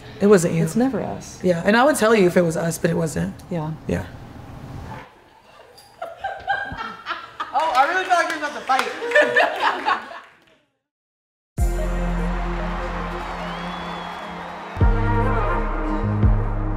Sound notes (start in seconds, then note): 6.1 everyone laughing; 7.5 clapping; 8.8 everyone laughing; 11.6 dynamic music; 11.6 crowd cheering